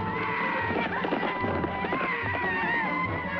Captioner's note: men shouting